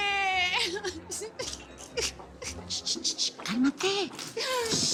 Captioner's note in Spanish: Sollozos